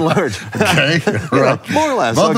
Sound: both laugh

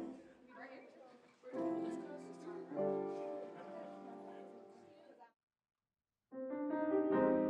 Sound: soft music; people chattering

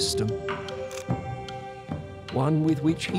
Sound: camera shutter clicks

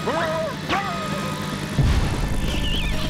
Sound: yells, screams; suction noise

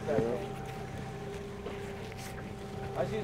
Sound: trolling motor humming

